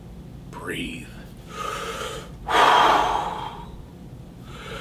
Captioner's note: breathes deeply